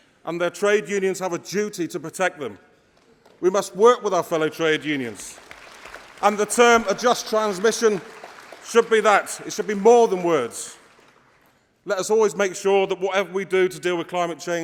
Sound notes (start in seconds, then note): 3.9 applause